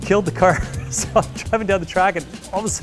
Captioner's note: chuckles